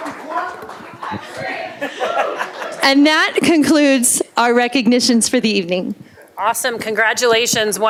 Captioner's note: applause